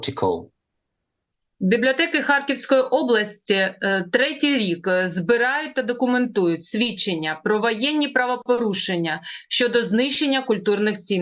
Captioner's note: foreign language